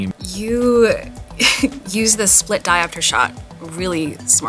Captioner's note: chuckling